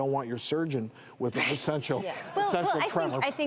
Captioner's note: laughter